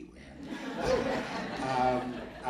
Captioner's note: audience laughing